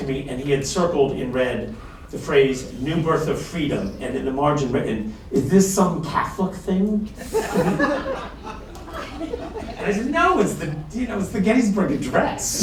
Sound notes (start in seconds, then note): 7.1 laughter